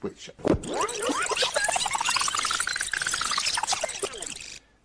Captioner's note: tape squealing